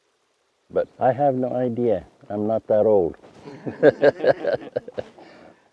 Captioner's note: laughs